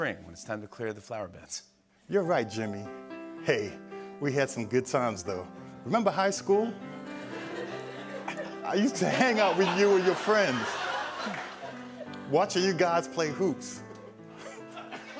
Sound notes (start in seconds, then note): 7.3 laughter